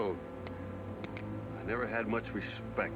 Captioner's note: gun clicking